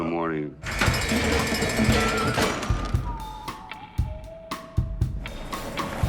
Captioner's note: alarm buzzing